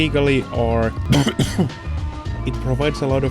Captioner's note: legally defensible coughing gag